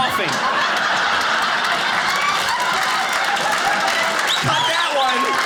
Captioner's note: audience applauding